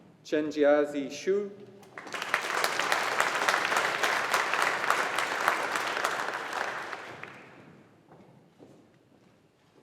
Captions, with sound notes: Chenjiazi Xu. (AUDIENCE APPLAUDING)